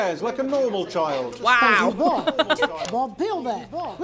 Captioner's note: chuckles